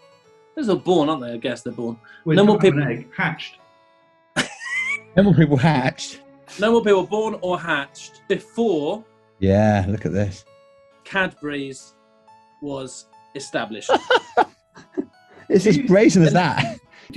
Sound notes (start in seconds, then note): 4.4 laughing; 13.8 giggling